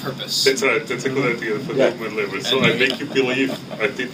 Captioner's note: chuckles